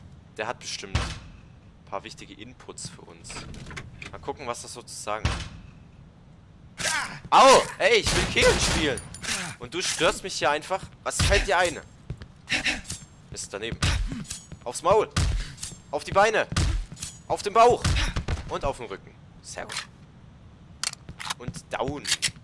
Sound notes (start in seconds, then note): 11.2 dogding and hitting noises; 16.5 hits again; 20.8 Glock 17 Reload